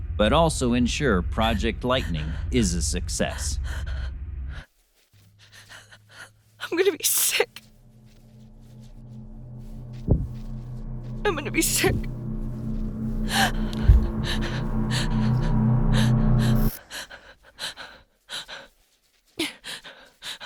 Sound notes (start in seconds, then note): 9.6 eerie music; 13.2 Sarah gasps; 13.4 eerie music; 17.1 Sarah gasps